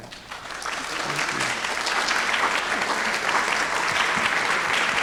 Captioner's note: audience applauding